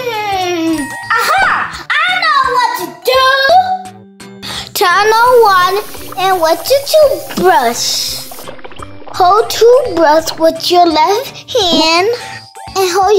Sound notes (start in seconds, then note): none